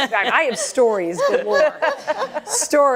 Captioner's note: laughter